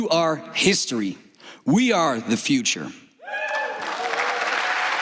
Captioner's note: applause